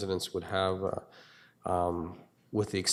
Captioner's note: none